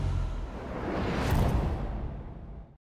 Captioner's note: impact